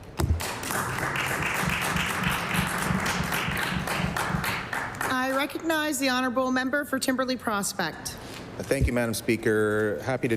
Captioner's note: applause